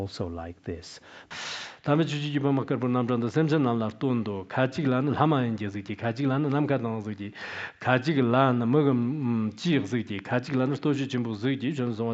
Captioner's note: giving oral transmission in Tibetan